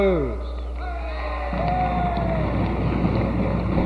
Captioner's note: audience cheers; applause